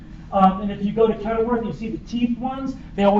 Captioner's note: none